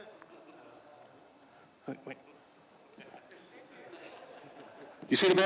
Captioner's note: audience members groaning, chuckling